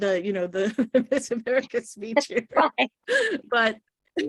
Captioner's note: laughing